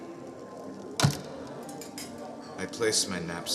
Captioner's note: loud thud, chattering continues